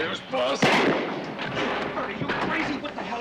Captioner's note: gunshot